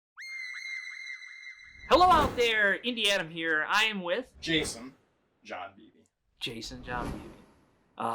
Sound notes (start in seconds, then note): 0.2 unsettling music; 2.4 screen whooshes; 6.7 screen whooshes